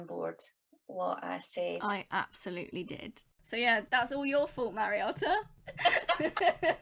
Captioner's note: laughs